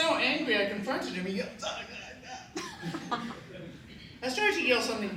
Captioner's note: mimics shouting